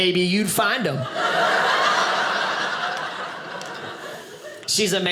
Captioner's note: audience laughing